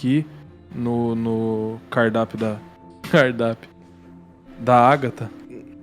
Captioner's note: chuckles